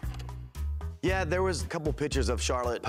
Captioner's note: film reel clicks